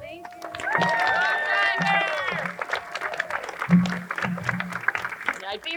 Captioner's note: crowd cheering and applauding